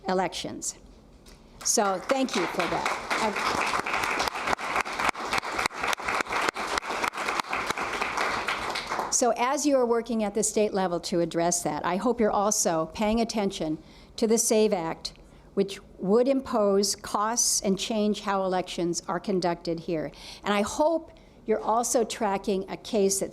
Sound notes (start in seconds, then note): 6.5 applause